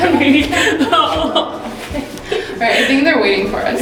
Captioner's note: laughing